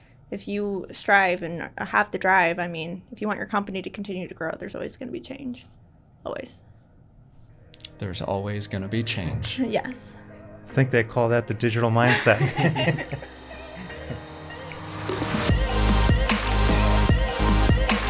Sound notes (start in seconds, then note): 12.0 presenters laughing; 15.3 upbeat music